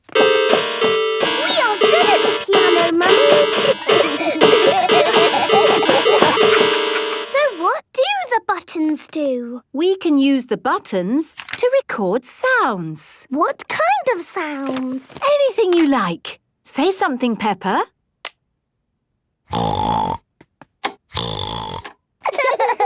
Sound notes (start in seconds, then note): 0.0 dissonant music; 3.6 laughter; 19.5 snorting; 22.2 laughter; 22.6 snorting